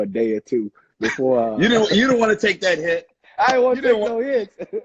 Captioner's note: laughing